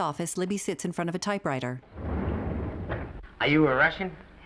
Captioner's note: doors sliding